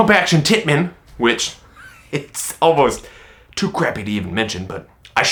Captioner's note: laughs